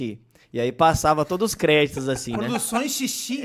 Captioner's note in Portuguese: risos